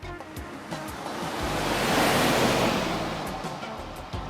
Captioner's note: car whooshing